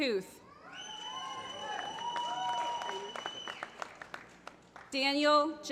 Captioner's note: applause